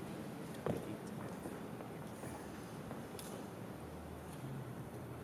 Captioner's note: chatter